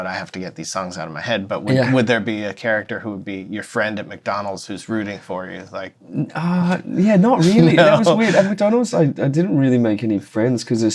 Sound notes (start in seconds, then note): 7.1 laughter